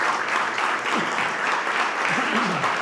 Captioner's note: coughs; clears throat